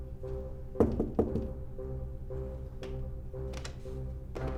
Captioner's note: knocking